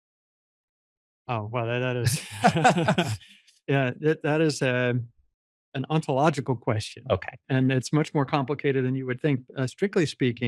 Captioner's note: laughs